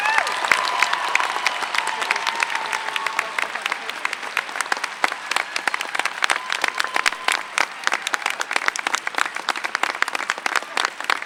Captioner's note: applause